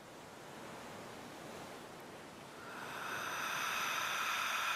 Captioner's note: sea waves crashing; deep breathing